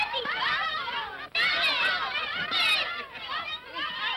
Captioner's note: children clamoring